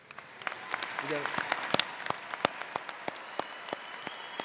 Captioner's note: audience cheers